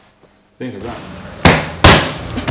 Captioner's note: loud striking sound